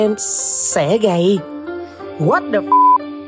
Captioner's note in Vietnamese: beep